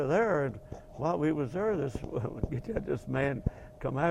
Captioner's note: laugh